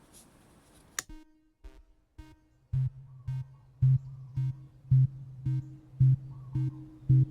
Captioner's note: soft tense music; light clicks off